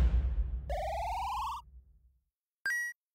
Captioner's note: beeping